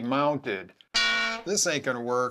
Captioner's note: ka-bonk!!